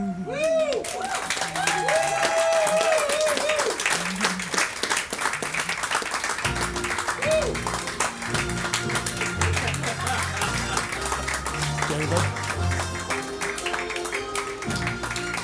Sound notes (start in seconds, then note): 0.0 applause; 0.2 cheers and applause; 7.0 laughter; 11.5 applause